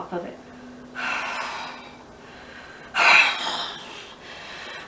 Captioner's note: blows air forcefully